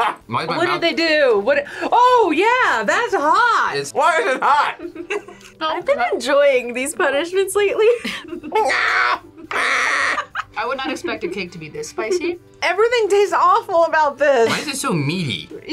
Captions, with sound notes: - Why is my mouth-- - What did they do?! What-- oh, yeah! That's hot! - Why is it hot?! - (laughs) - I've been enjoying these punishments lately. - Mngaah! Ahhh! - (laughs) - I would not expect a cake to be this spicy. - Everything tastes awful about this. - Why is it so meaty?